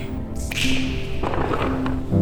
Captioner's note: finger snap